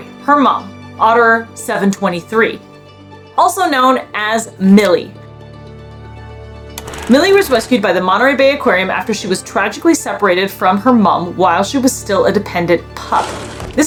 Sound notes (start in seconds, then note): 2.8 background music; 5.3 background music; 6.8 film rolling sound effect